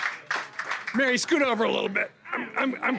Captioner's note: applause